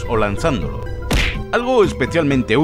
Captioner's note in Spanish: Sonido de golpe en la cabeza